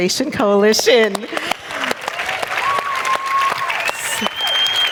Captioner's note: applause